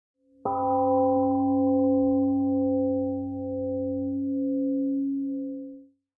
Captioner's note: temple gong rings and fades